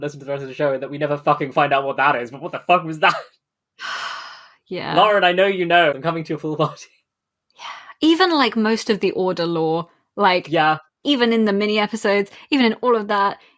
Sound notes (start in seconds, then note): 3.0 laughs; 3.8 sighs